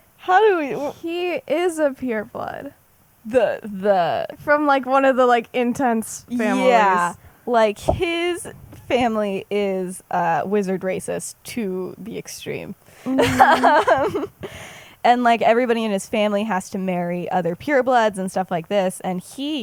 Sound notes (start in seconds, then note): 13.0 laughs